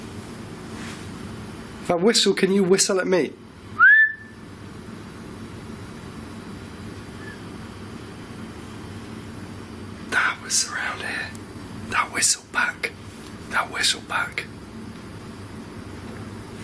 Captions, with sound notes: If I whistle, can you whistle at me? (whistles) (whistle in distance) That was around here. That whistle back, that whistle back.